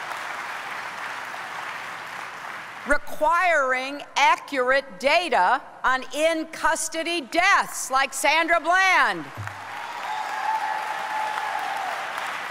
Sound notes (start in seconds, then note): 2.2 applause